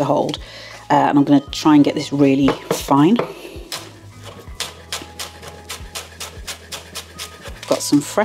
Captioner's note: chop chop chop